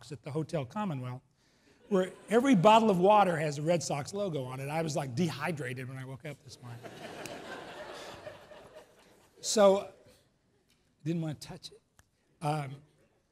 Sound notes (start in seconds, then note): 6.8 laughs